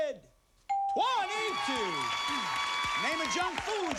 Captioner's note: cheers and applause